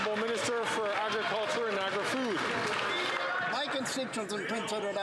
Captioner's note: some Applause